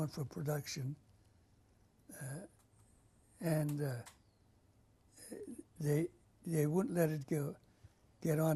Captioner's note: pauses for 3 seconds